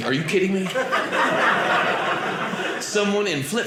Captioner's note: audience laughing